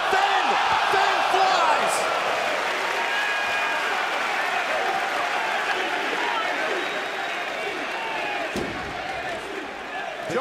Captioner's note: cheers and applause